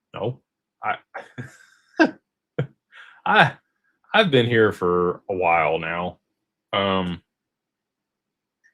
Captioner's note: laughter